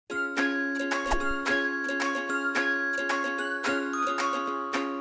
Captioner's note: cheerful music; air whooshing